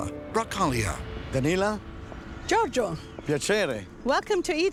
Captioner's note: speaks Italian